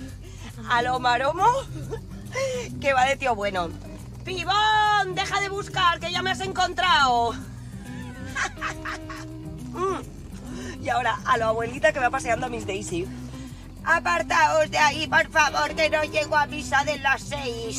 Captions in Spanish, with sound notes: A lo maromo que va de tío bueno. ¡Pibón, deja de buscar que ya me has encontrado! (Risas) ¡Hum! Y ahora a lo abuelita que va paseando a Miss Daisy. (VOZ DE ABUELA) Apartaos de ahí, por favor, que no llego a misa de las seis.